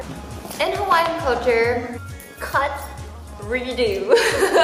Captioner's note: laughs